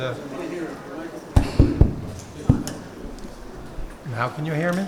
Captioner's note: thumping on mic